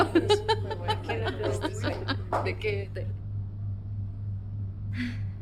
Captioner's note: laughter